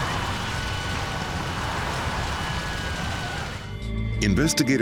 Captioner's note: flames roaring; sirens wailing